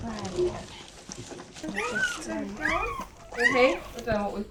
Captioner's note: newborn puppy squeaks